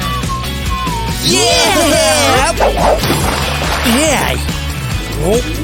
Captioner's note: whistling; shouting and screaming